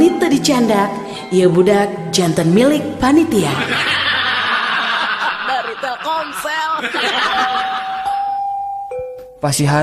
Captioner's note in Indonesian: tertawa